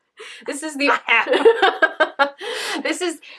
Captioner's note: laughter